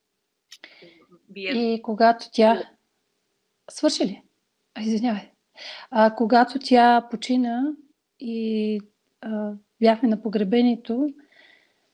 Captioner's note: foreign Language followed by English Interpreter